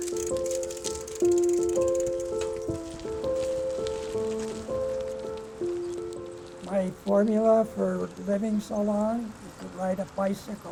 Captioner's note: voice fades